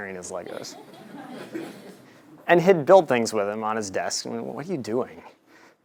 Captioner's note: laugh